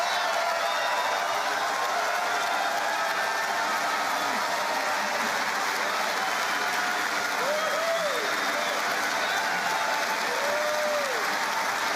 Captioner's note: laughter